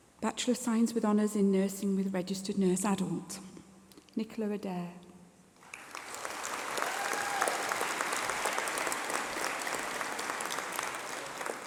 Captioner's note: applause